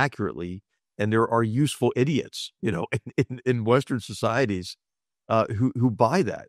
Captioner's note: laugh